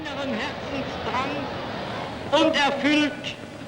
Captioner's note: adenauer speaking german